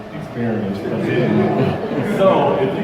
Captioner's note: crowd laughter